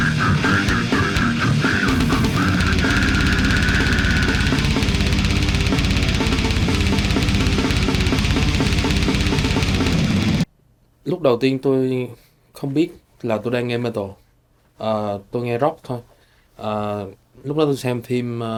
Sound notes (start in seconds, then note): 11.3 speaking foreign language